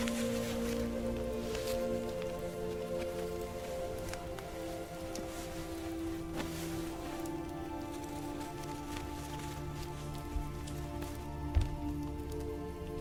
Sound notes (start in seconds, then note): 4.0 fire crackling; 11.2 gentle music continues